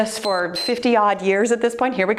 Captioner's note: timer beeps